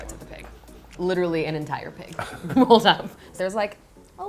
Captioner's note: laughs